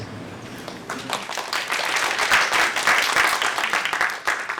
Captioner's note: applause